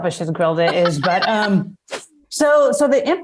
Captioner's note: laughs